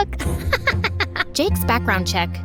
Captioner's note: laughter